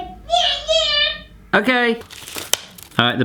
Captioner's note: yelling